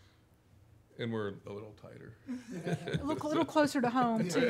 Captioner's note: laughing